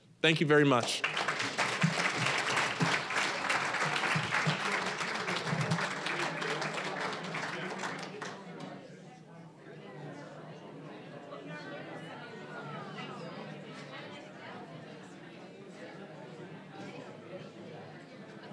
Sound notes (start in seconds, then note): 2.0 applause; 8.3 general chatter